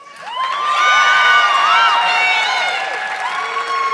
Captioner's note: audience clapping